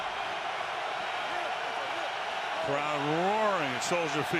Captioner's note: crowd cheering